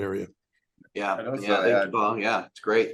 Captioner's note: mumbles